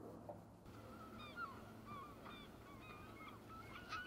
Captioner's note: birds squawking